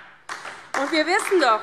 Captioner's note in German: Beifall DIE LINKE